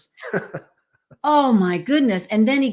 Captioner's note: laughs